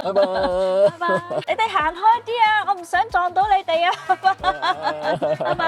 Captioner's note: haha